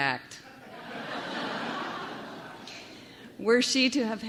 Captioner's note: laughter